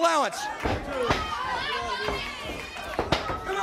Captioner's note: crowd cheering